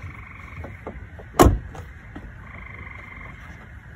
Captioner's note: door closes